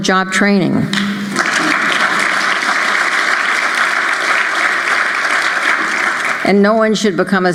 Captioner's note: applause